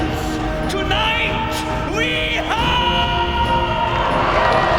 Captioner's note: cheering